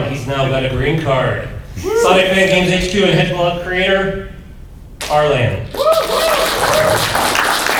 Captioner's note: applause